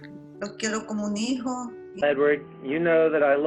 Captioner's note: speaks Spanish